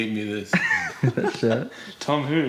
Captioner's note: chuckling